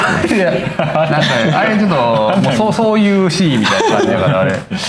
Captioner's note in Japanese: 笑い